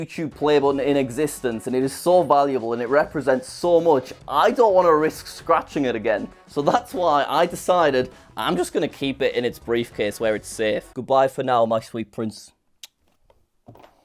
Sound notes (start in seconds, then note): 12.5 kiss smack